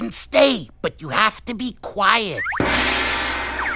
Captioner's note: gong chimes